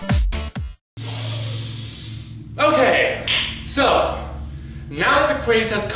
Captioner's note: inhales